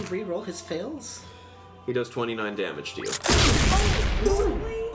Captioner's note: explosion sound